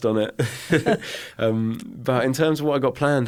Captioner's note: both chuckling